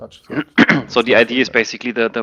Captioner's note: clearing throat